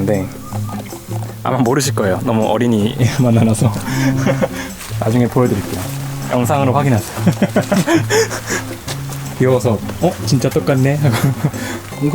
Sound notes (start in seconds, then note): 8.4 laughs